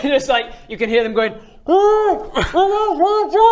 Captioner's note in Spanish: hwfft; muy ahogado